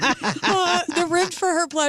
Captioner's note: laughing